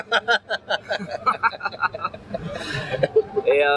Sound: laugh

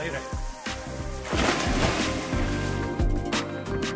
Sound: water spattering; smooth lofi music

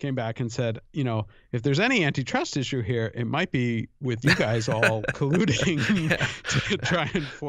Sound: chuckle

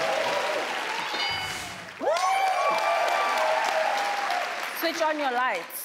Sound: audience cheers; bell clanging

